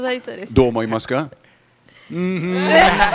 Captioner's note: laughs